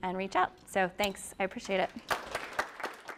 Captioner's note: applause